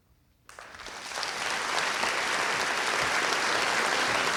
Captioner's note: crowd applauds